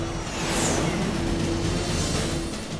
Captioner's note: engines whining